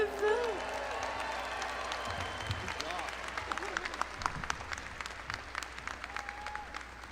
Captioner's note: crowd cheering; crowd clapping